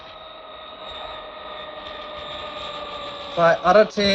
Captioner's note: plane whirring